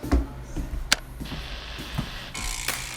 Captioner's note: static buzzing; funky jazz music